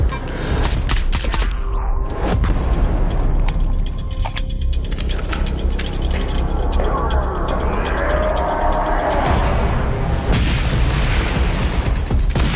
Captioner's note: meter beeping rapidly